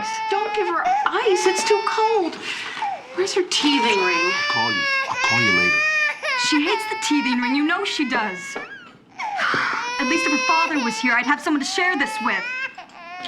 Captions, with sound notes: Don't give her ice. It's too cold. Where's her teething ring? I'll call you. I'll call you later. She hates the teething ring, you know she does. (SIGHS) At least if her father was here, I'd have someone to share this with.